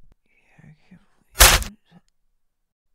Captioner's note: flesh pierces